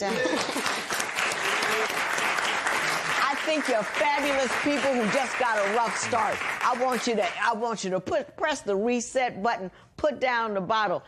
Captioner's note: cheers and applause